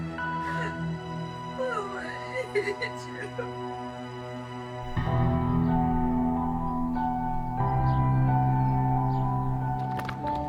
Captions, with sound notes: Mom, I need you. (sobs) (mellow music continues)